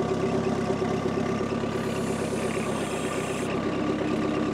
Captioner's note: engine revving